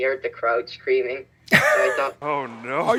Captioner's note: wheeze laughs